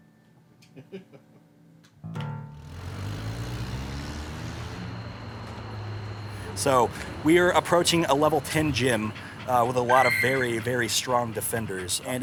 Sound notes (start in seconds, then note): 1.0 laughing; 2.6 engine revving